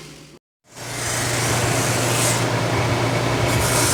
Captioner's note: machinery